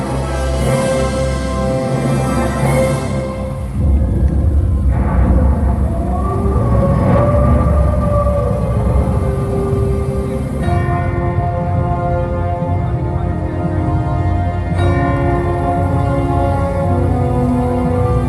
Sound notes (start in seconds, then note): 2.6 Thunder, Werewolf Howl; 10.4 Music